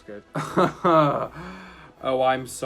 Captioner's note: laughing